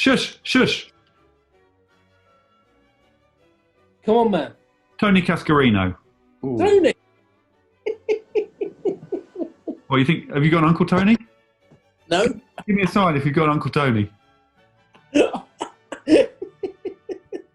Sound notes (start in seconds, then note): 7.8 giggling; 15.0 laughing